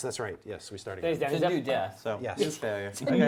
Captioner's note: all chattering